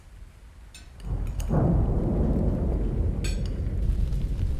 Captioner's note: thunder pounding